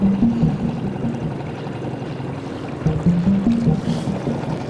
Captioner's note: boat engine humming